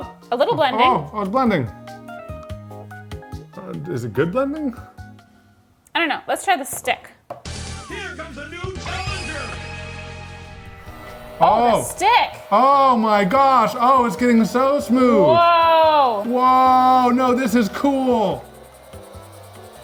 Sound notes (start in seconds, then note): 2.8 relaxing music continues; 7.9 energetic music; 9.9 video game music; 13.0 heat gun whirring; 18.6 relaxing music